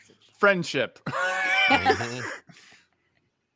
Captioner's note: laughs